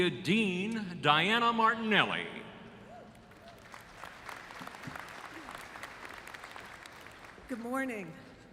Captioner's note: applause